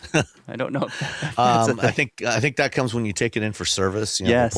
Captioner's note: laughs